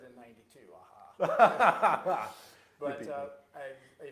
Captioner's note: laughing